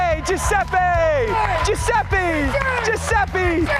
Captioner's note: cheers and applause